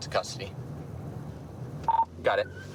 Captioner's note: radio beeps